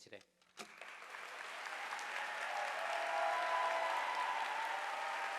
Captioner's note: audience applauding